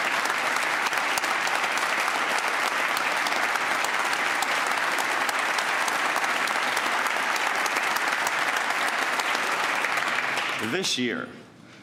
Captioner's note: applause